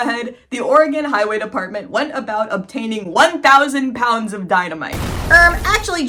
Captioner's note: explosion; mocking voice